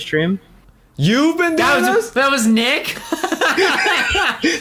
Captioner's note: laughs